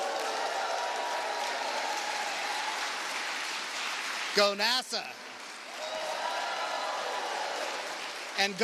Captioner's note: applause